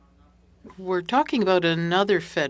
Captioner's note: speaking French